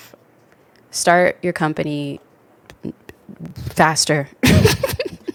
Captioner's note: laughs